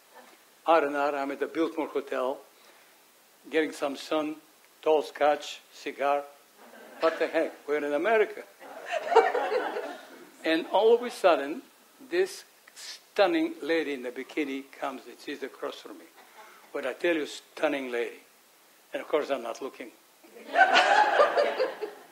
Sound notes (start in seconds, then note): 8.6 audience chuckles; 20.4 audience laughs